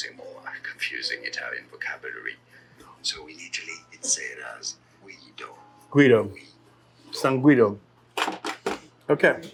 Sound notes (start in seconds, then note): 8.1 phone clattering